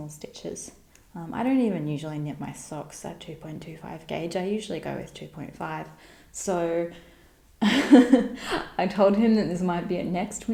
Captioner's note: haha